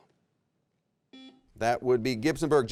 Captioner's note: buzzer rings